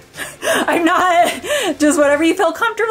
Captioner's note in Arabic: تضحك